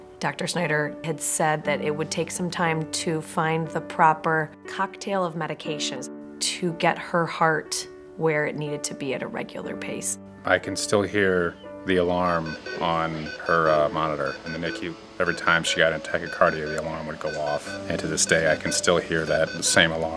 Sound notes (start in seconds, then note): 12.3 alarm beeping